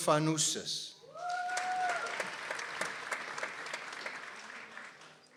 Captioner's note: people applauding